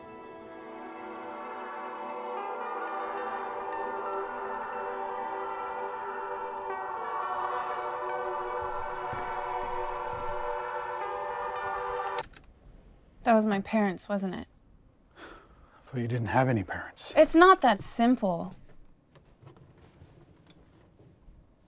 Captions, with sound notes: [SOOTHING BACKGROUND MUSIC PLAYING] [click] That was my parents, wasn't it? I thought you didn't have any parents. It's not that simple.